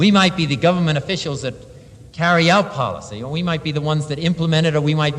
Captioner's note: none